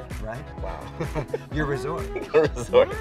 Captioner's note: laughs